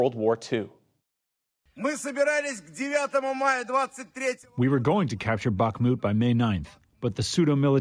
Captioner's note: through translator